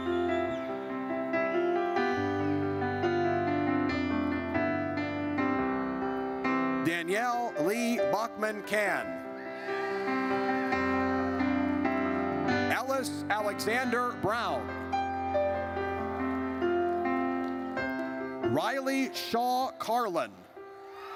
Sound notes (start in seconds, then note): 0.0 audience whistles; 9.4 audience cheers; 15.2 gentle music; 20.9 audience cheers